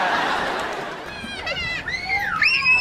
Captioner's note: audience laughs; child shrieking